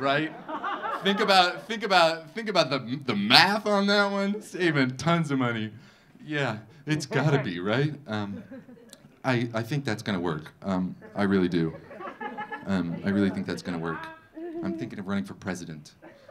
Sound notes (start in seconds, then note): 10.9 audience laughing